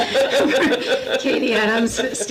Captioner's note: laughs